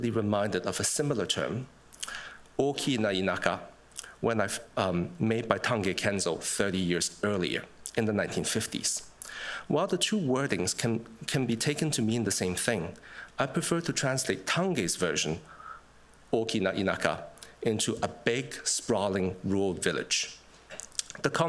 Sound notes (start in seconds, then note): 3.1 japanese; 16.7 japanese